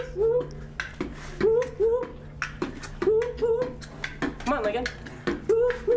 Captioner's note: Michael-Paul beatboxing